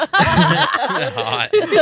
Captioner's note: laughing